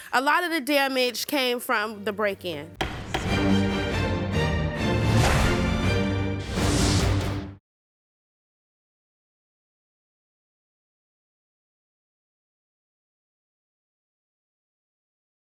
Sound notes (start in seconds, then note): 2.7 dramatic music; 2.8 gavel bangs